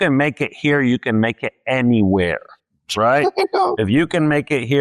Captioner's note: laughs